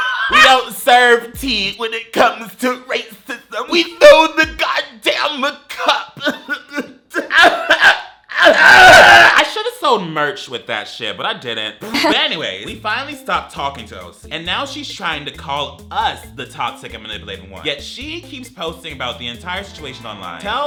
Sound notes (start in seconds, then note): 6.2 chokes